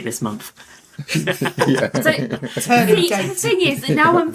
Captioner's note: laughter